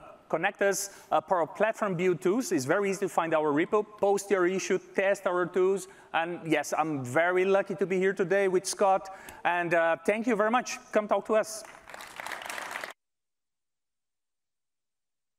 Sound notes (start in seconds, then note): 11.6 applause